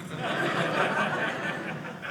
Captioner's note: audience laughing